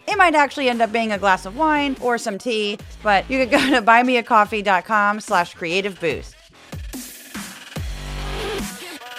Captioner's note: laugh